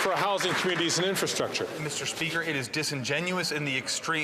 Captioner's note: some Applause